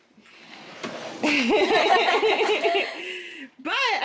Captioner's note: all laughing